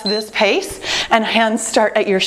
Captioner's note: timer beeps